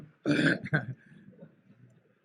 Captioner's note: laughter